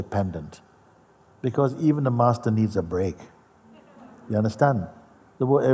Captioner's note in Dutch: gelach